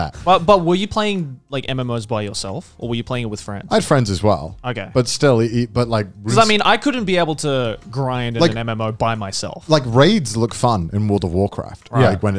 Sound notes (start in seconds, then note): none